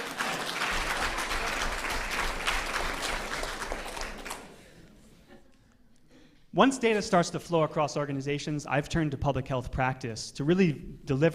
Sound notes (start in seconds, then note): 0.0 applause; 0.6 laughter